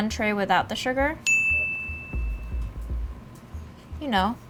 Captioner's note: dinging